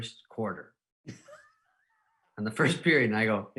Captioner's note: laughing